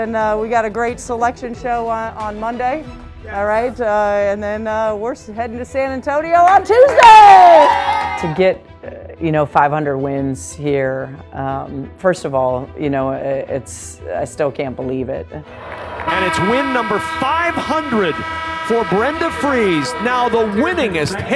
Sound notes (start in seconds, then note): 6.6 team cheering; 15.5 siren buzzing